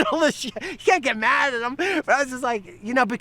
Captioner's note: laughing